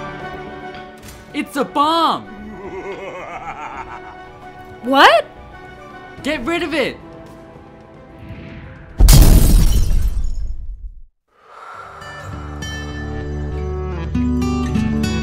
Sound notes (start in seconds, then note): 2.4 evil laugh; 8.3 explosion; 11.4 sighs